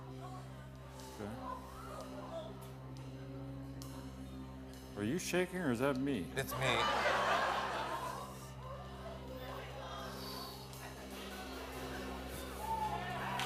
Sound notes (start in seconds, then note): 6.4 laughter; 12.4 cheers and applause